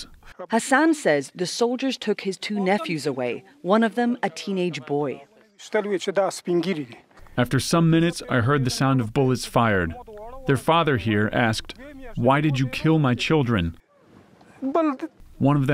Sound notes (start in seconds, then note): 6.4 through translator